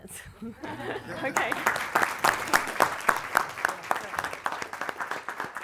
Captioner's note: audience laughing and clapping